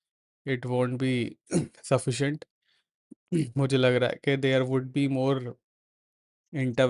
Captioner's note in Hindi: गला साफ़ करने की आवाज़